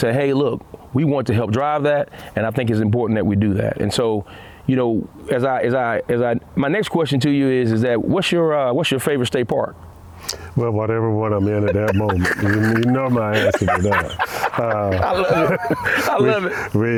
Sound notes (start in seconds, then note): 11.4 laughter